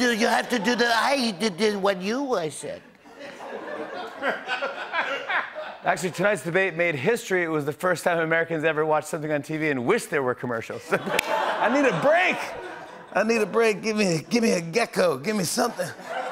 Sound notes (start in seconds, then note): 3.0 laughter; 15.8 laughter